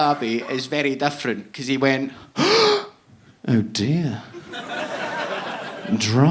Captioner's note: gasping